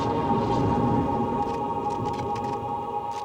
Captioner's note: cameras flashing